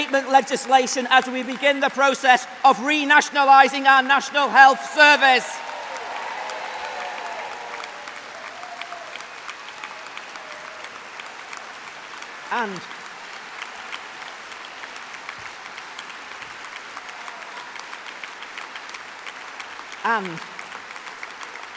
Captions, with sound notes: privatisation, will end PFI we will reveal the health and social Care Act and yes, we will bring forward reinstatement legislation as we begin the process of re-nationalising our National Health Service. (cheering) (applause)